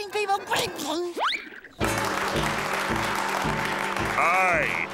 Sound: applauding

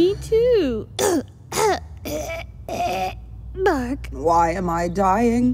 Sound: coughs

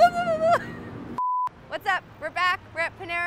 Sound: beep

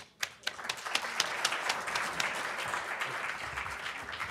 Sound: audience applauding

